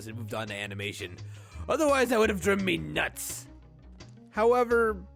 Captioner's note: inhales